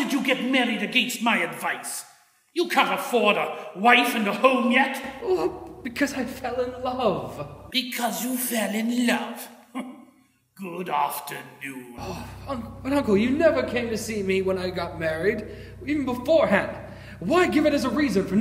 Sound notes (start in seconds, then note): 9.6 mockingly